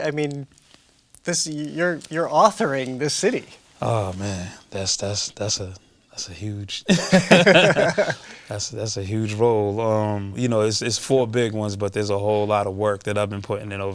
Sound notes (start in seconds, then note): 4.9 stammering; 6.8 both laughing